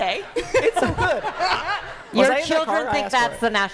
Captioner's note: laughter